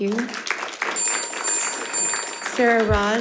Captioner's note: audience clapping; bell ringing